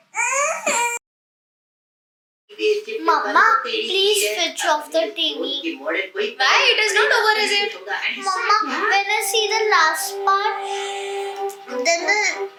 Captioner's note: girl crying